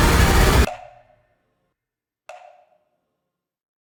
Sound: music stops; clock ticks

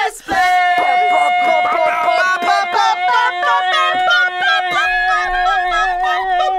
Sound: beatboxing

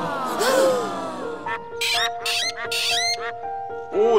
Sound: quacking

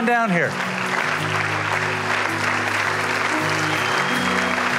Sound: applause and music continues

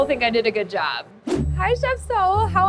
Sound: air whooshing

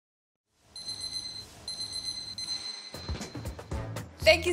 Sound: beeping noise

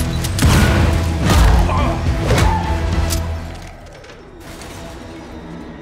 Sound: fighters grunting

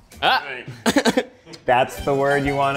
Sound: Zach laughs

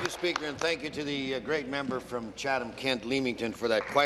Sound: applause

